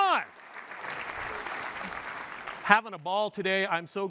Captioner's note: applause